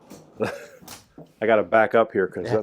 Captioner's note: laughs